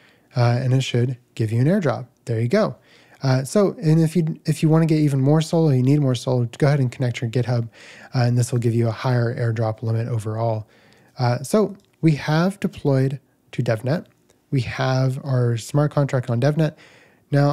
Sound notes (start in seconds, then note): none